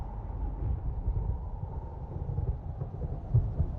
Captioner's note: wind howls; thunder rumbles